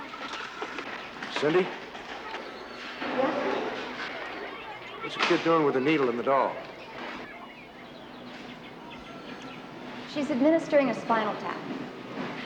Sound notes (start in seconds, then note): 7.2 birds tweeting; 8.6 phone ringing